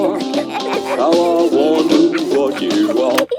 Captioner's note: both giggling